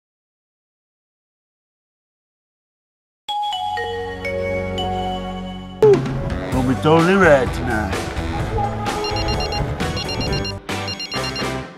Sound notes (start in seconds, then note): 3.3 Nokia Start Start Up Sound; 8.9 phone Rings